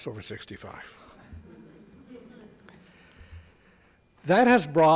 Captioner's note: audience laughs